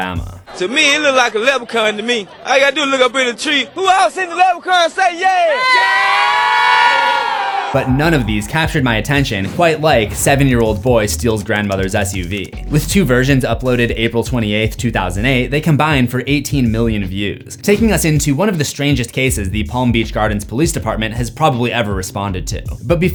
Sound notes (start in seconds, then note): 6.9 crowd